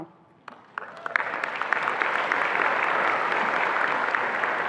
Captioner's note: attendees applauding